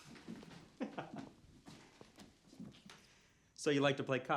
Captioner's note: Ryan laughs